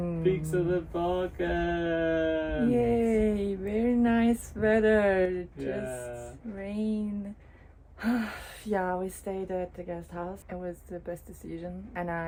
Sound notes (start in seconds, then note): 8.0 sigh